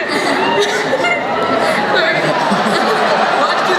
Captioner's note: crowd cheering